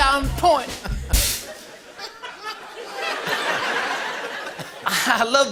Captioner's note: laughter